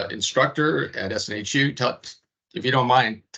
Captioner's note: none